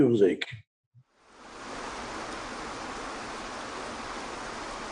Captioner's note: waterfall rushes